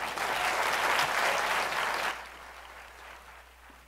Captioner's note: applause